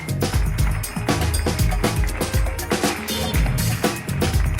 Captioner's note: audience applauds